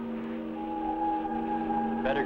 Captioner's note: siren wailing